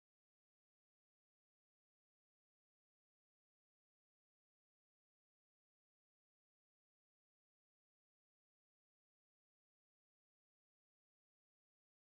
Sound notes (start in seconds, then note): none